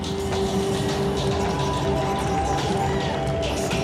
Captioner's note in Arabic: تصفيق